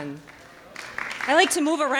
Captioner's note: audience clapping